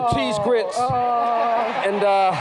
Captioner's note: laughter and applause